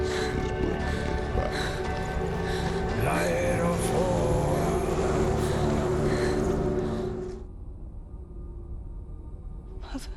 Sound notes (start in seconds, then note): 3.3 indistinct chatter